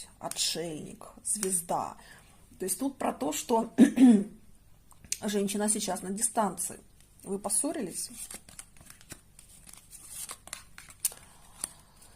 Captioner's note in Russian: откашливается